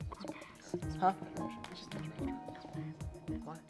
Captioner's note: players whisper